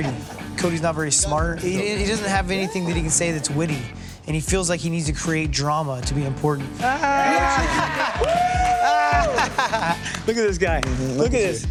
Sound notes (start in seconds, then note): 5.1 laughter, cheering; 6.9 laughs